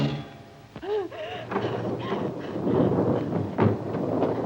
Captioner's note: panting, strained breathing